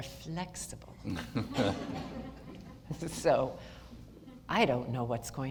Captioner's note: audience laughter